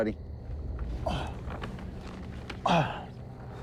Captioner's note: grunting; breathing heavily